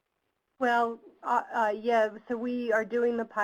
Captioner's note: voiceover